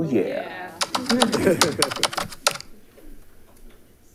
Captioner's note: keyboard clacking